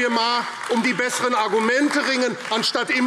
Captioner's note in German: Beifall AfD